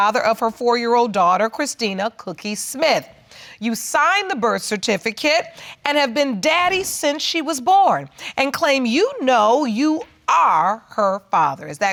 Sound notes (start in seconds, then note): none